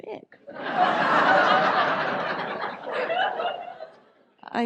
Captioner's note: audience laughs